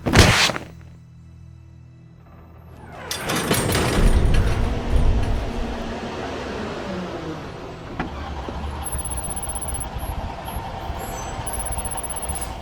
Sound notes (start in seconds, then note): 3.4 truck engine roaring